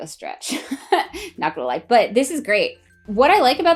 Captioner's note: laughing